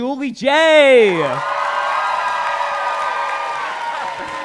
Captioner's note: crowd cheering